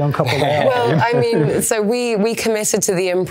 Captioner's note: Nick laughs